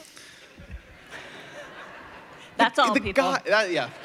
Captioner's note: laughter